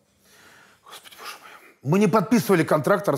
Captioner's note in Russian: тихо